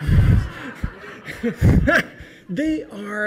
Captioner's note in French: Le rire